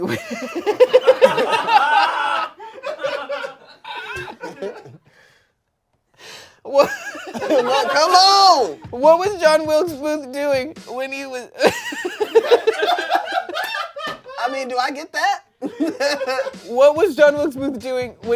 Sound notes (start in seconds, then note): 0.0 everyone laughs; 11.6 everyone laughs; 12.3 laughs